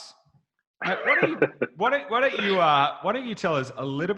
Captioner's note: laughs